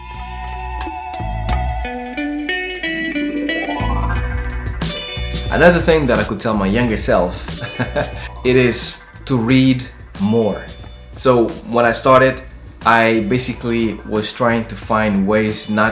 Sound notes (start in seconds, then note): 0.1 light upbeat music; 7.4 laughs